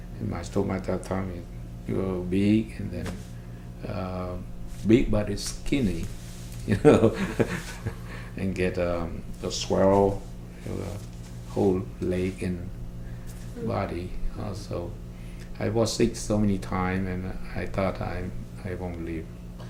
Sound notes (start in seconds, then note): 6.8 laughs